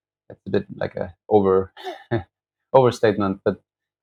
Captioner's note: laughter